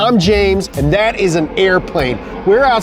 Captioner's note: airplane engine roaring